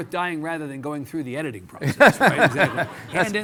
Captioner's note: Mitch laughing